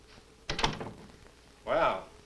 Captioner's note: door closes